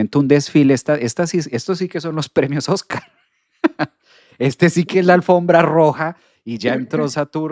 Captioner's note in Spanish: risas